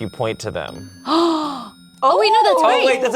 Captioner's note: gasps